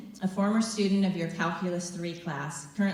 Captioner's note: none